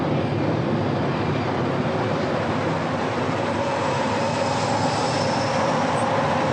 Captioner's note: wind blowing